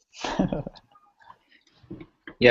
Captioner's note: laughter